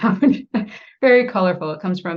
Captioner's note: laughs